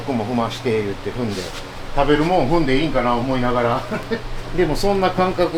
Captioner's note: laugh